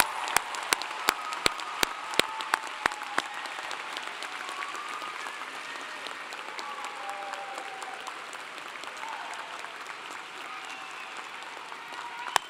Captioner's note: applause